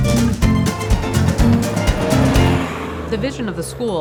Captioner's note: bus driving